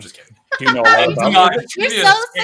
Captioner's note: laughter